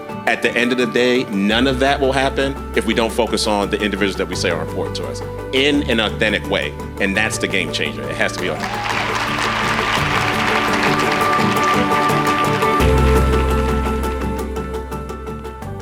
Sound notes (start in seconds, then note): 8.3 audience applauding; 12.7 bright music